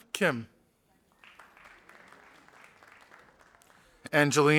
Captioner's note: audience applauding